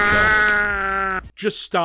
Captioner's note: badly audio mixed cat sound